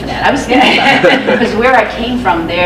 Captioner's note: laughs